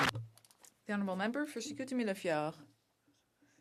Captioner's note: some Applause